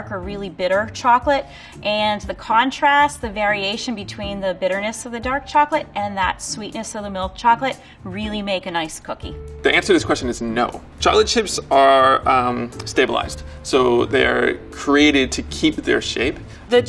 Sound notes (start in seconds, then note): none